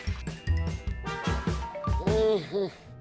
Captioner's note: groans